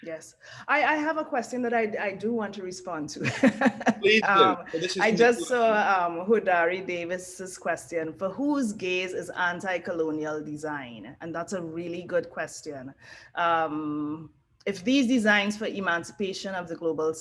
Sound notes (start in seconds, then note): 3.3 laugh